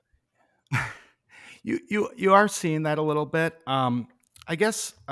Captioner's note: chuckles